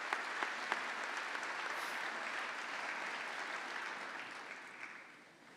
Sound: applause

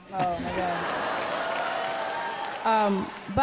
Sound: audience laughing and clapping

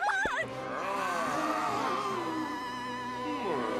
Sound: groaning

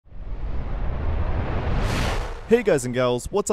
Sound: whoosh

